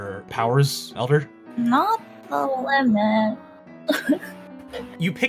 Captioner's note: sob